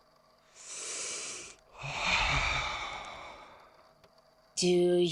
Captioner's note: stressed assistant archivist noises and deep breaths